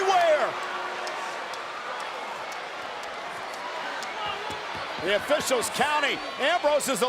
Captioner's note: applause